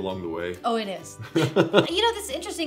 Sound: laughs

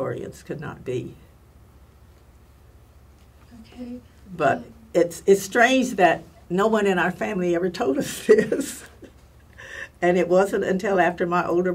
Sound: laugh

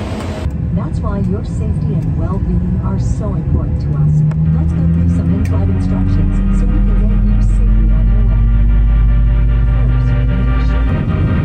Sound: airline automated speaker talking about safety

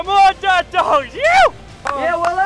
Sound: shouting

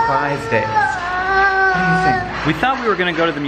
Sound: baby babbling

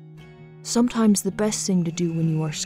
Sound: voiceover

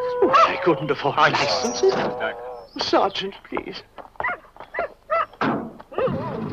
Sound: barking

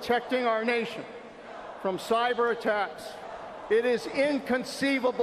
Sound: audience booing

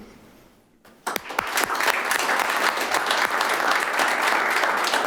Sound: clapping

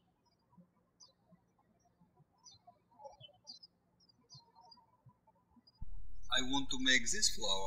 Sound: birds chirping

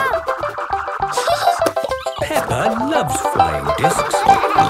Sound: giggling; snorting and laughter

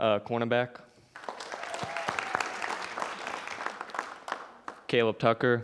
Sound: audience applauding

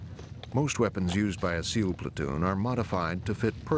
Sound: voiceover

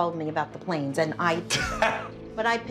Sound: laughs

